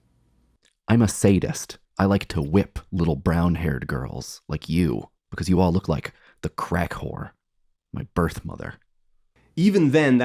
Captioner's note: reading aloud from the novel